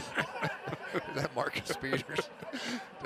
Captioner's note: laughter